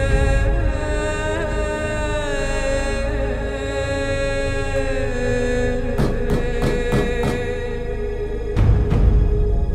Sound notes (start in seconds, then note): 0.0 ominous Music; 5.9 banging Sounds